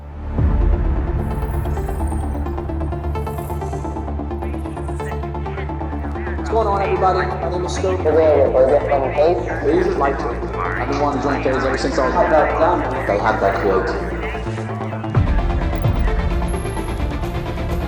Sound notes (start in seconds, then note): 0.1 dramatic synth music; 2.1 soft electronic thrilling; 12.4 people speaking in foreign language; 14.4 dramatic synth music